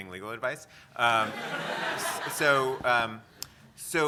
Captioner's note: audience laughter